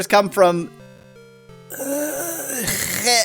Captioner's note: stammering